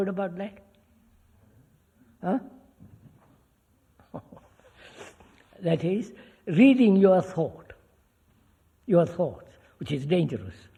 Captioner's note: laughs